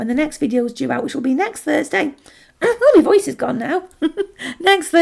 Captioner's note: laughs